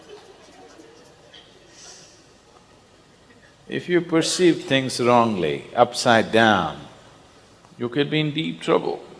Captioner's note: laughter